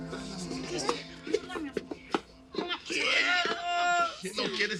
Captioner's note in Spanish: Hablan al unísono